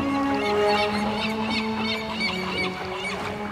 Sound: seagulls squawking

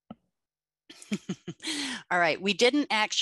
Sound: laughs

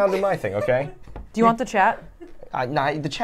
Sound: laughs

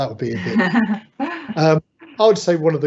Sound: laughing

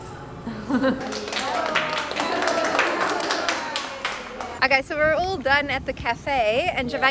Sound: applause

